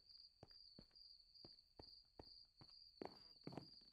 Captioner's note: crickets chirping in background